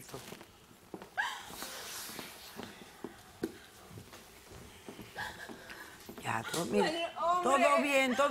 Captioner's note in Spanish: Sollozos; Sollozos